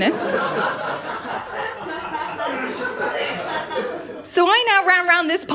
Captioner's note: laughter